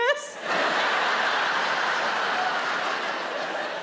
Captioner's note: audience laughs